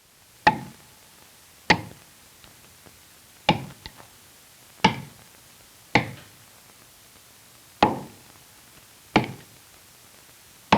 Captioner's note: chopping